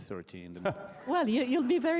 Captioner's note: laughter